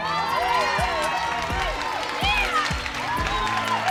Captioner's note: audience cheering